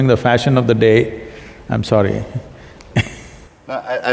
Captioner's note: laughs